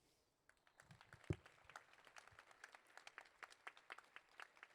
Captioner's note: applause